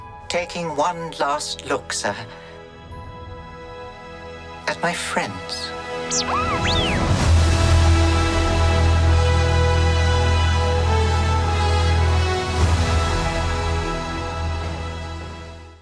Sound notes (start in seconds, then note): 6.0 R2-D2 beeps; 7.5 dramatic music